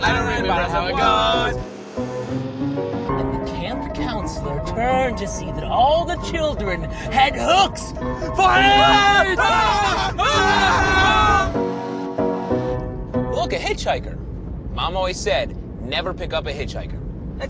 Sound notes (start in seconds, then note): 8.6 screaming